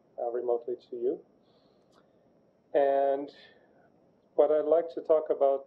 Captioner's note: pause